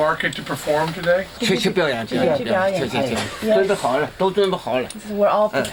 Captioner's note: non-english speech